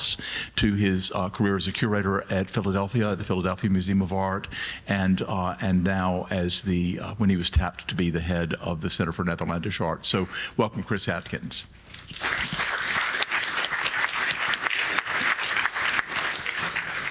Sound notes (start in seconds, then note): 12.2 audience applauding